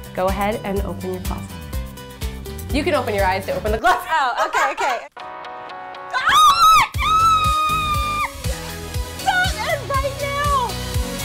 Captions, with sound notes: Go ahead and open your closet. You can open your eyes to open the closet (laughs). - Oh my God! Stop it right now!